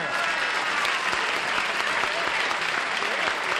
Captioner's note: applause